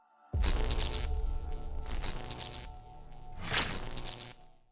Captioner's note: lightning sizzling